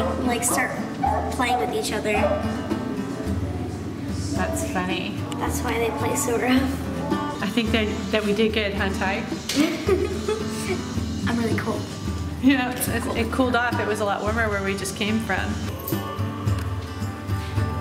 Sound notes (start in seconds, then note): 9.5 laughs